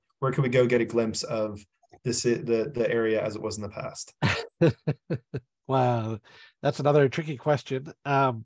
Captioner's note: laughs